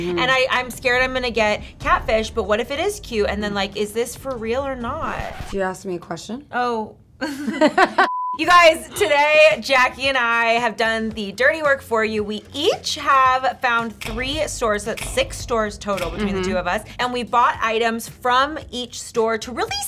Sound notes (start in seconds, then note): 5.2 tape rewinding; 7.2 both laughing